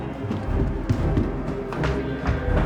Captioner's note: footsteps thumping; tense music